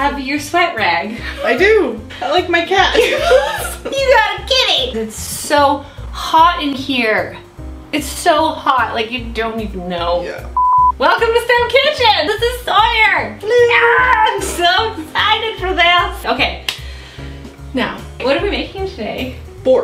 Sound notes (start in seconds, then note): 2.9 both laugh; 10.5 beep